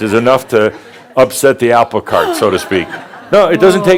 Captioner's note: gasps